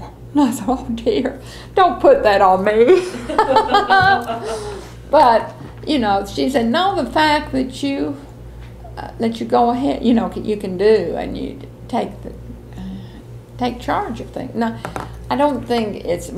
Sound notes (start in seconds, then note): 2.9 laughter